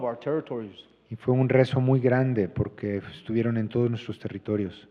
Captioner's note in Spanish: Expositor habla en inglés